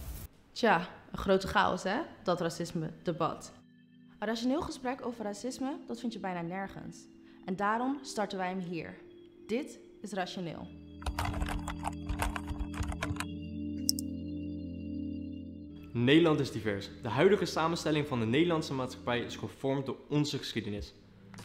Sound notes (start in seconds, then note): 11.0 typing